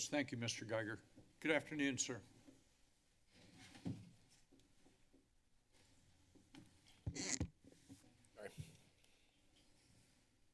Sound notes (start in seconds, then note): 7.1 mic noise